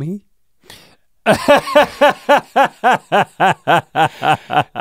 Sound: Rhett laughs

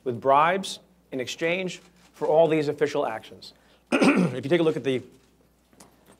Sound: clears throat

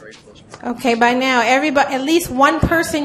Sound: voiceover

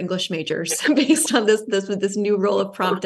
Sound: laughing together

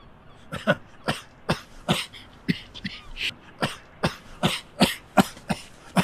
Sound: cough/Laugh

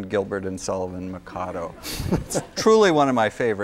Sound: laughter

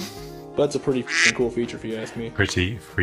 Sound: duck quacks

